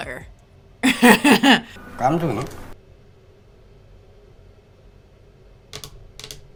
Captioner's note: speaking Korean